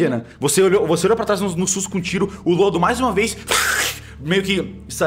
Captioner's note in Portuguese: grunhido